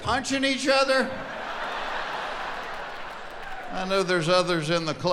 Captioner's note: laughing